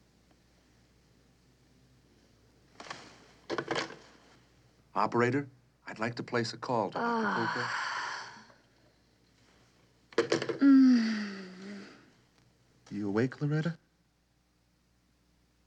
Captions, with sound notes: Operator, I'd like to place a call to... [sighing] Mmm. You awake, Loretta?